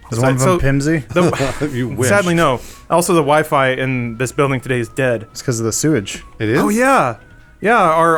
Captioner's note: laughs